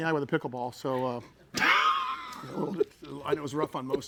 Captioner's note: laughing